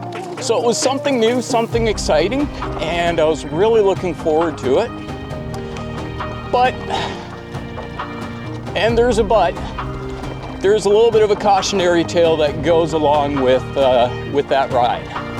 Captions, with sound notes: So it was something new, something exciting and I was really looking forward to it. But... [sighs] ...and there's a "but". There's a little bit of a cautionary tale that goes along with, uh, with that ride.